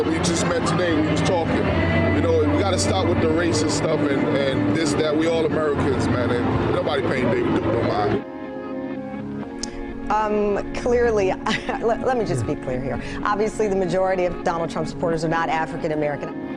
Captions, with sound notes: We just met today. We was talking. You know, and we gotta stop with the racist stuff and this, that. We all Americans, man. Nobody paying David Duke no mind. Um, clearly... [laugh] Let me just be clear here. Obviously, the majority of Donald Trump supporters are not African American.